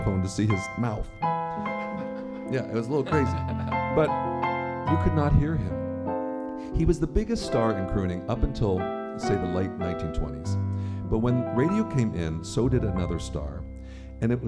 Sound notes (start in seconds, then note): 1.5 laughter